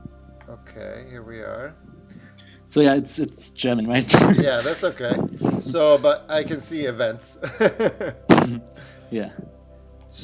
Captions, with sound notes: - Okay, here we are. - So, yeah, it's German, right? - Yeah, that's okay. But I can see events (laughs). - Yeah.